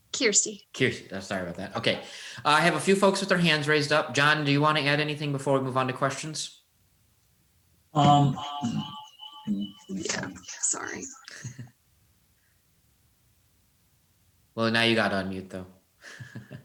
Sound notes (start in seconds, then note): 7.9 microphone echoing; 11.7 chuckling